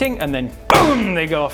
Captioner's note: boom!